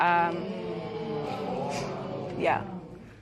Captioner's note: spectators murmur